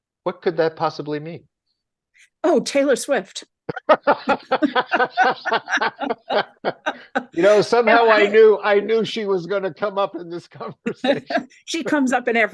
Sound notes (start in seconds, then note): 3.7 everyone laughs